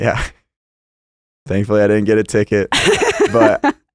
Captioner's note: laughs